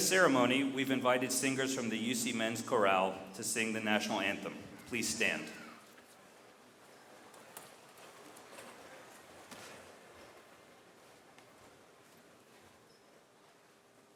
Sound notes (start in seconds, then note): 7.4 stirring of crowd